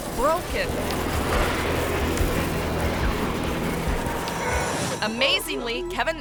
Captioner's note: tense music; car scratching